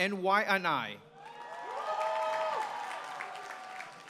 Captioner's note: applause